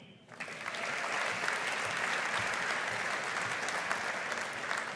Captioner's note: audience applauding